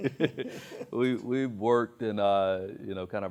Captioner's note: both laugh